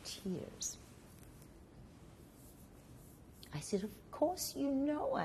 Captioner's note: pauses for 3 seconds